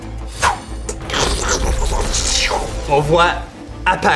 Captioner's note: small clap of thunder and electric sparks